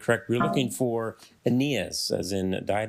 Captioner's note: failure chime